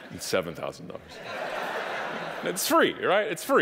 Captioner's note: audience laughing